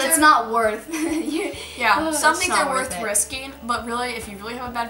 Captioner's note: laughing